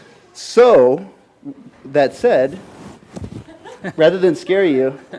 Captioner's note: scattered laughter